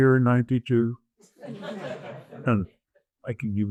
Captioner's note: audience applauds